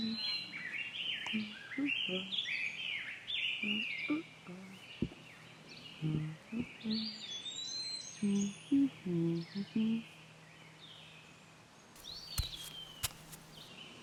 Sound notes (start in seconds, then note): 1.5 humming continues; 12.0 birds chirping